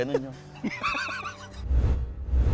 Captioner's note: laughing